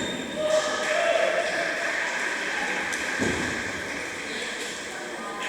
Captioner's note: applause